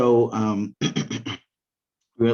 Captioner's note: clears throat